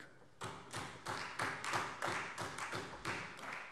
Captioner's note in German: Beifall Freie Demokraten